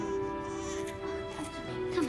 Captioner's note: <i> baby crying</i>